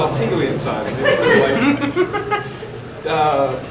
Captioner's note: audience laughing